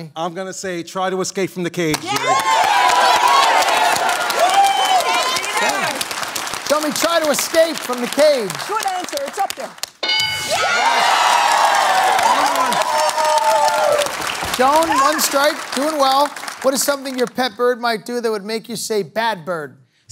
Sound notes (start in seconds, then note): 5.1 applause; 10.0 bell dings; 10.0 cheering; 12.5 applause